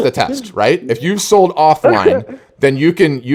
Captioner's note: laughing